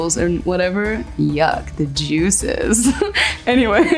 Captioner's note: giggles